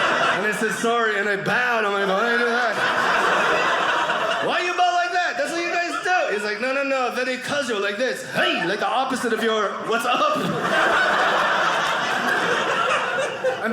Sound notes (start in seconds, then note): 2.9 audience laughing; 10.8 audience laughing